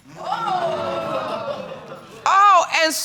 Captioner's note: audience exclaiming